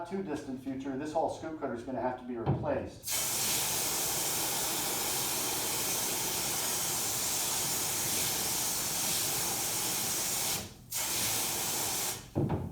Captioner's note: spraying noises